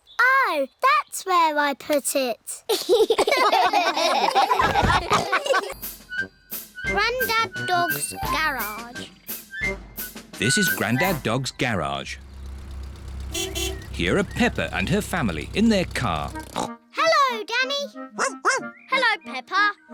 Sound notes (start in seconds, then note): 2.7 all laugh; 12.2 horn beeps; 16.4 snorts; 18.1 barks